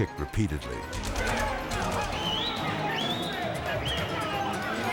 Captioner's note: prisoners shouting